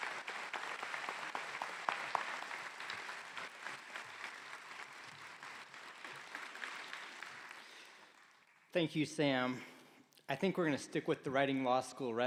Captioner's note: applause